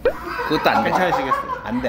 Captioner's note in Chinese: 哈哈哈哈哈哈哈哈哈